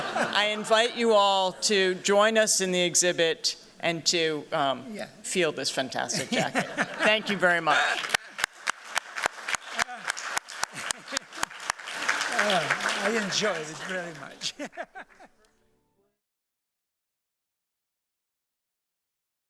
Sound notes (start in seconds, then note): 7.7 applause; 14.1 laughs